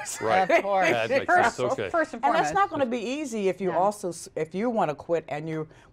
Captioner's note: laughter